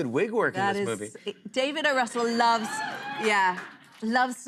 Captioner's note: audience cheers